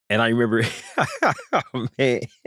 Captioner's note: laughter